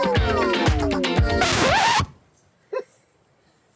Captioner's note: record Needle Scratch!